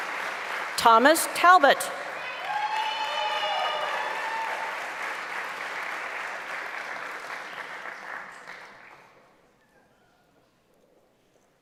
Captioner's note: applause; cheering; applause